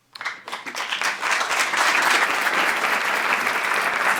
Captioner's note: applause